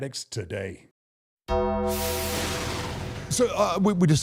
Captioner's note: bell tolls